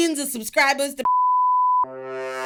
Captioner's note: beep